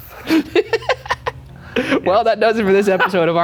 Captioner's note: laughing